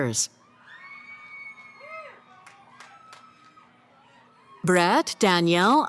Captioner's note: cheering